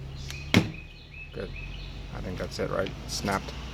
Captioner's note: pop sound